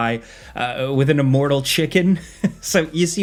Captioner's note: chuckles